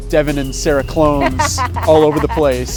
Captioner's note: laughing